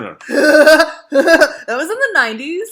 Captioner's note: laughing